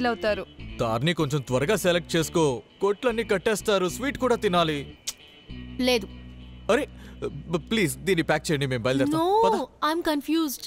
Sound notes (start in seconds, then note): 5.0 clicks tongue